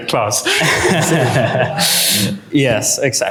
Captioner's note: laughter